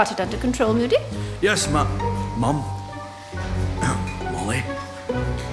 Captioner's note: clears throat